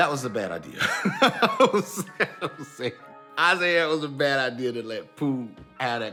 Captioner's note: laughing